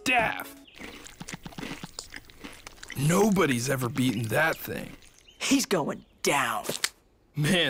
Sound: chewing

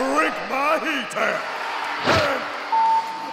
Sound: crowd cheers

